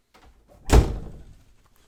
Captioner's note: door slams